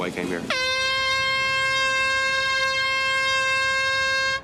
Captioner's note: air horn blows